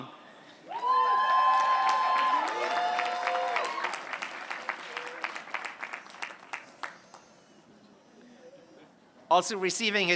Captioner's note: applause